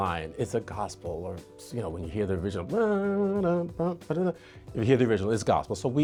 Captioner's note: vocalizes